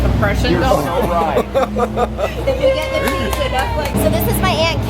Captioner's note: cheering and clapping